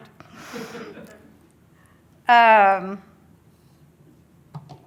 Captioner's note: audience laughs